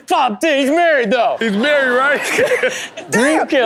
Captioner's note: everyone laughs